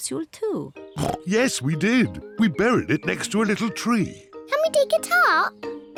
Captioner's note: oinks